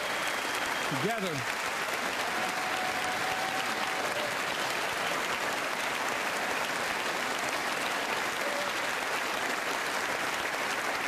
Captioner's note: applause